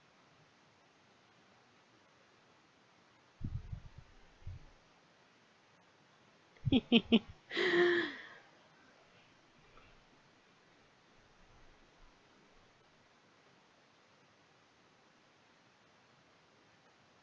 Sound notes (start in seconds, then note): 6.6 snickers